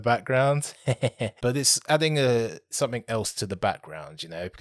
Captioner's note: laughs